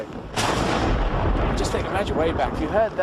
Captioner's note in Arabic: تصفيق الرعد